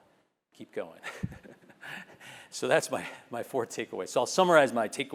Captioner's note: laugh